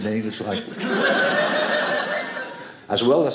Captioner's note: audience laughing